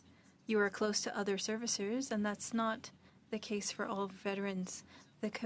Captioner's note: speaking French